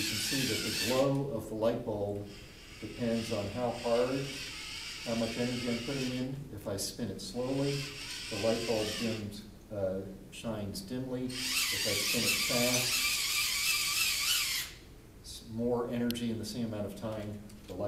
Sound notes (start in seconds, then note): 0.0 whirring sounds; 13.0 whirring sounds